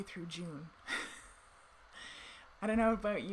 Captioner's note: chuckles